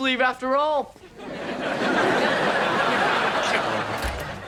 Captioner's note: audience laughs